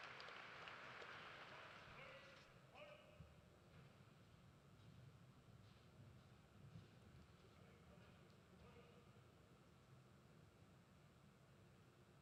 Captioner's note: cheers and applause